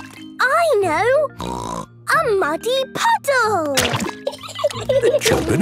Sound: laughing

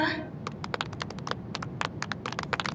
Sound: proud Clapping

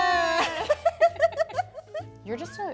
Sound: laughing

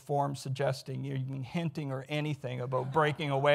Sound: audience laughs

